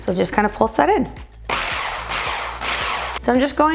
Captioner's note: blender roaring